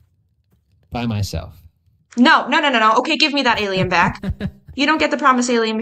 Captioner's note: laughs